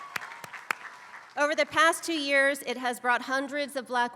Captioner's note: applause